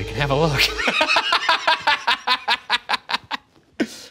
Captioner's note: laughing